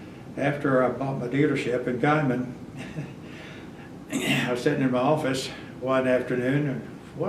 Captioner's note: laughs